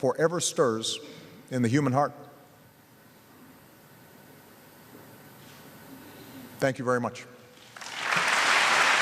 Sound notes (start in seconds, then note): 7.7 applause